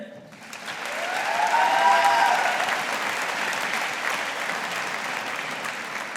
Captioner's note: audience applauding